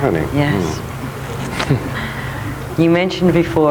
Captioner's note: chuckles